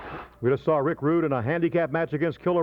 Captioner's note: graphics whooshing